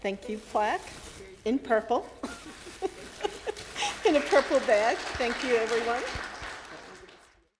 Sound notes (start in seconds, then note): 2.2 laughs; 4.1 clapping